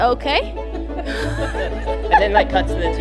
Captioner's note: all laughing